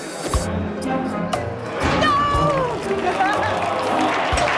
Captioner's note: Risos